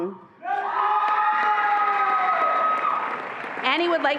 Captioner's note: attendees applauding and cheering